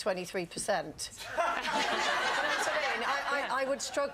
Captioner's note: audience laughs